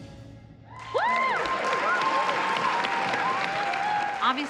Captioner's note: cheering and applause